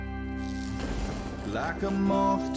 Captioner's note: lightning strikes